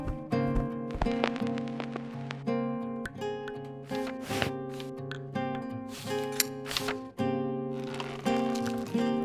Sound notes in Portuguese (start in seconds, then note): 0.0 Chiado de vitrola; 3.2 Leves estalos; 7.7 Fechar de leque